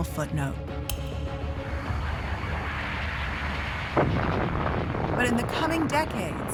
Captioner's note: explosion echoes